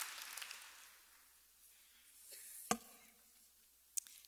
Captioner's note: applause